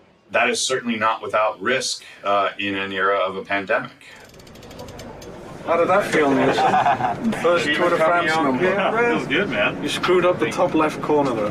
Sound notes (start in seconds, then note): 4.2 chain cracking